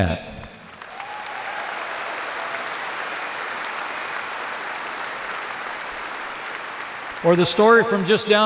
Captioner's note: applause